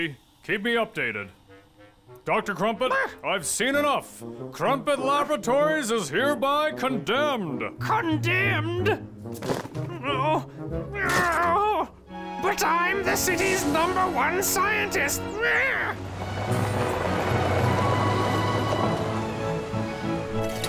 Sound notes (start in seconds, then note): 2.5 Dr. Crumpet yells; 9.8 Dr. Crumpet grunts in protest; 15.2 Dr. Crumpet yells